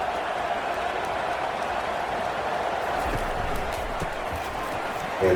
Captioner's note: crowd cheering